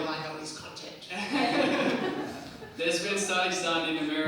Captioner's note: crowd laughs